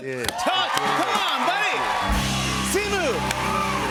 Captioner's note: cheers and applause